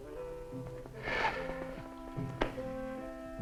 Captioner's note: chuckles